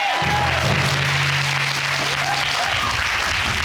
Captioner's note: audience exclaiming, applauding